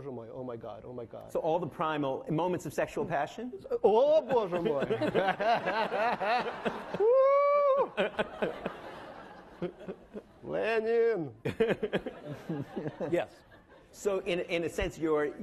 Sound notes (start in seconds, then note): 3.7 speaks in foreign language; 4.4 laughing; 6.8 wooing; 10.5 speaks in foreign language